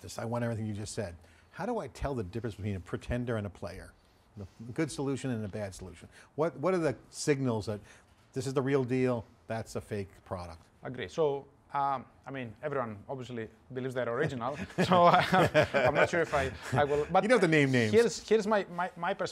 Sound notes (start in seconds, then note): 14.4 laughing